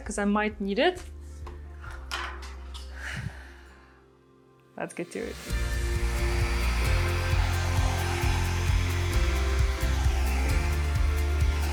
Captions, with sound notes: 'cause I might need it. (hair dryer clatters) Let's get to it. (lively music) (hair dryer whirring) (lively music)